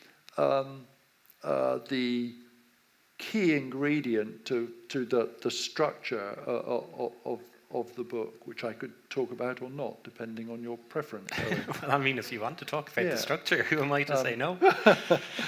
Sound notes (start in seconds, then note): 11.3 laughs; 14.6 laughs